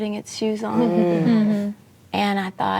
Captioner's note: ladies reacting